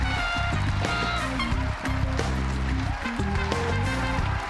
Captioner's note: cheering fades